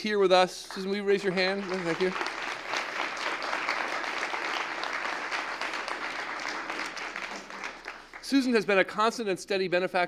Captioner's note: applause